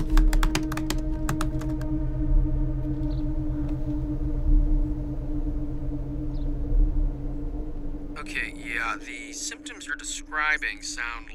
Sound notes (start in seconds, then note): 0.0 tabs clicking; 0.1 suspense music; 3.5 birds chirping